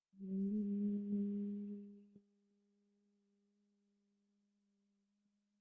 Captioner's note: humming sound: Hmmmm followed by silence